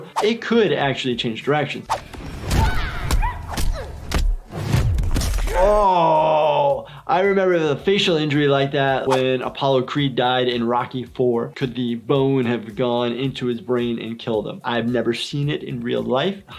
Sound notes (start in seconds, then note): 2.4 punches thud; 5.0 bones cracking